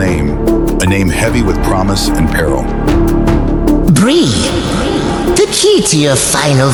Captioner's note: whispering